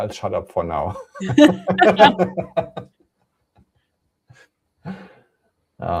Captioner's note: laughter